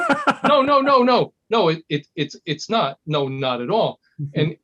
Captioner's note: laugh